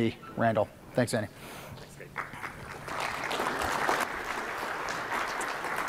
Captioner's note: applause